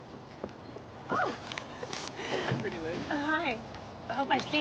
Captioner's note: chuckles